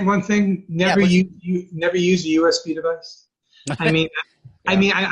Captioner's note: laughing